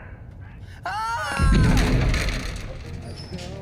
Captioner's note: screams